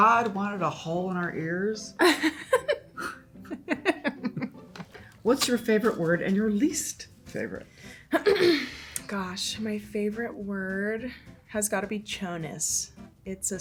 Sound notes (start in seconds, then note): 2.0 Jean laughs